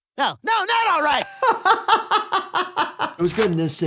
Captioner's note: laughing